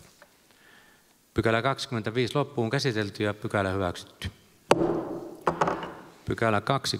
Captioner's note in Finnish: Nuijan kopautus